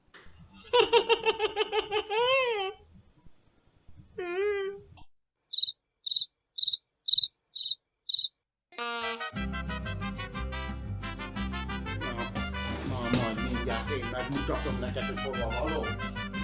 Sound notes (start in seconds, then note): 0.6 he is laughing; 5.0 cricket chirping